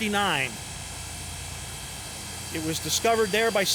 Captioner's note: train hissing